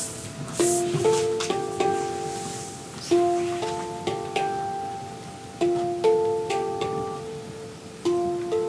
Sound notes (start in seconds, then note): 3.1 dancer's body scrapes